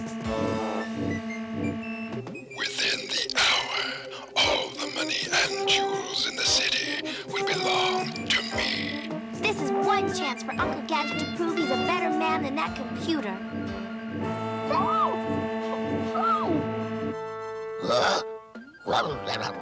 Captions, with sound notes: - WITHIN THE HOUR, ALL THE MONEY AND JEWELS IN THE CITY WILL BELONG TO ME. - THIS IS ONE CHANCE FOR UNCLE GADGET TO PROVE HE'S A BETTER MAN THAN THAT COMPUTER. [MUFFLED SCREAMING] [BRAIN BARKING]